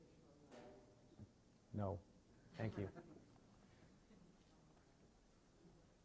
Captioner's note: chuckling